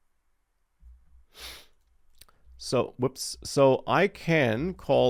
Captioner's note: sniffs